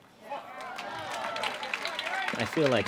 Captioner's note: applause